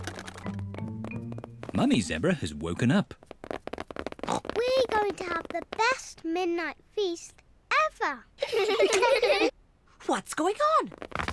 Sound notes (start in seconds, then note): 0.0 pattering; 3.7 oinks; 8.4 all giggle